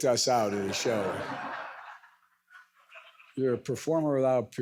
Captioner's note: audience laughs